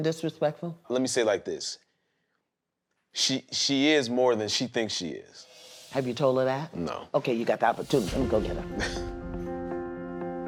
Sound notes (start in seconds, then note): 8.6 laughs